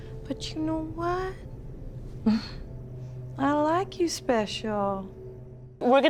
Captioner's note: scoffs